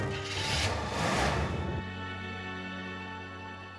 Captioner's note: engine revs